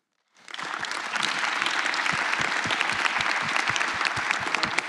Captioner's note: applause